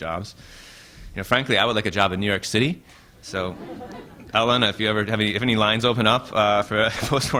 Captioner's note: laughter